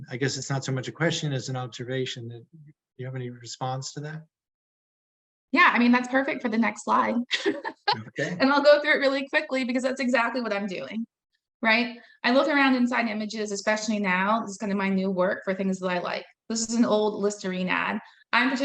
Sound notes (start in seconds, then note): 7.3 laughing